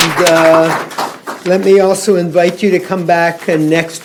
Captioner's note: applause